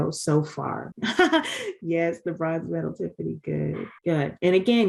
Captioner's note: laughs